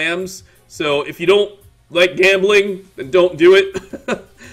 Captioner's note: laugh